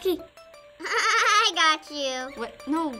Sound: laughs

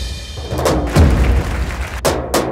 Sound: applause

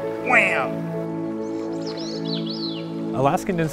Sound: bird trilling

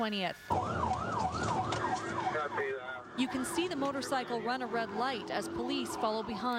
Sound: sirens

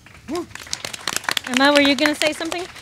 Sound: audience claps

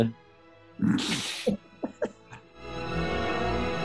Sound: sniggering

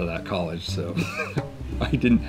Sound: man chuckling

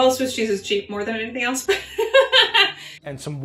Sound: laughing

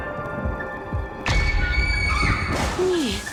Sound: screams

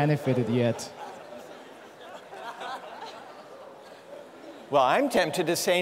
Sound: laughter

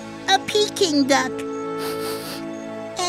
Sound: sniffles

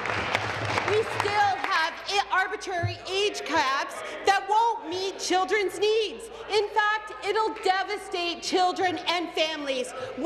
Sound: applause

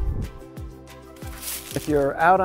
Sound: leaves crunching

